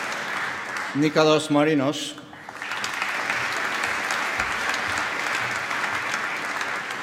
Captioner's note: applause